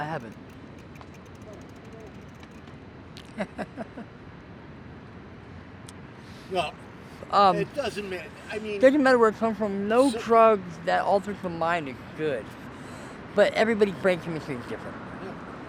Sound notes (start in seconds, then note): 3.2 light chuckle